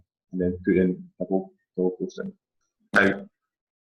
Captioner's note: distorted speaking